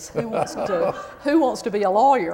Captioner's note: laughter